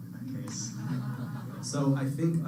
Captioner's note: laughter